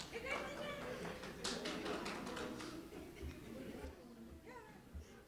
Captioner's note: audience applauding; audience chattering